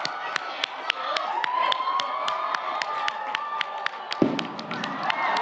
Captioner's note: audience cheers; audience applauds; cannon bursts